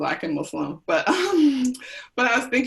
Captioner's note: chuckles